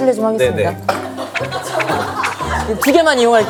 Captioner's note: pat, pat